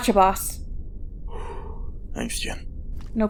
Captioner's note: sigh